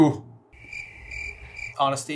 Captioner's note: crickets